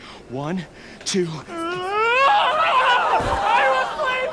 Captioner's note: screams